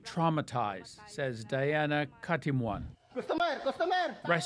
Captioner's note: speaking alternate language